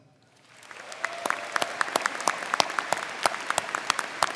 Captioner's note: crowd clapping